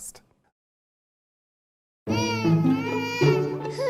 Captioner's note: child Crying